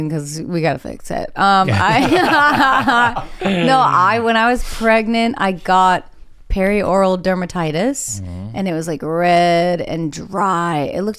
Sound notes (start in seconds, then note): 1.6 all laughing